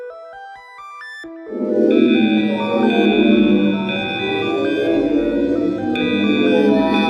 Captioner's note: monster Yelling; alarms Buzzing Rhythmically